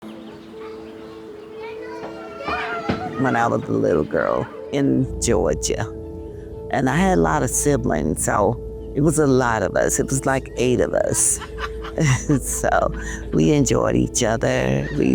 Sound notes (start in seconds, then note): 0.0 slow music; 11.1 laughter